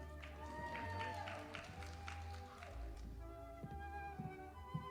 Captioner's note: audience applauding